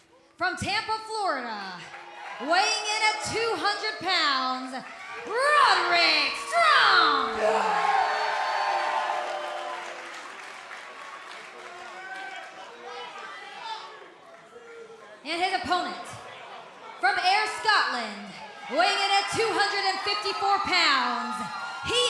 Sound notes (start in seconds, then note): 4.7 cheers and applause